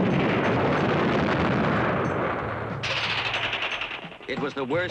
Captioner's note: explosions; gunshots